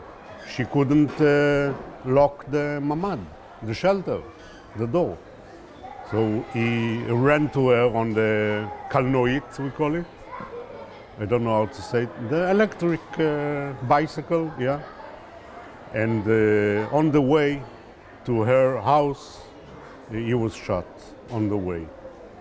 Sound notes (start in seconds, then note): 8.1 hebrew